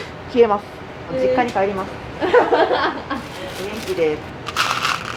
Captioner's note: laughter